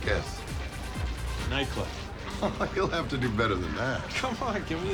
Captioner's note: laughs